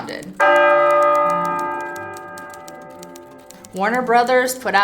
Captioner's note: death knell bell tolls